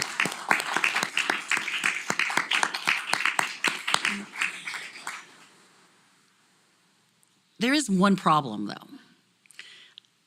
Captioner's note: applause